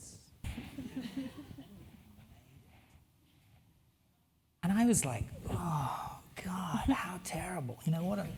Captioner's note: laugh